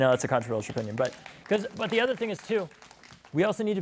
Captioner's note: applause